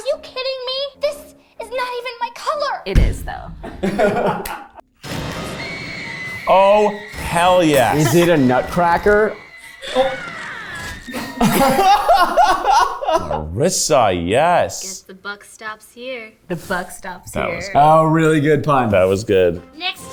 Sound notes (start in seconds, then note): 3.7 everyone laughs; 5.7 boy screaming; 10.9 everyone laughs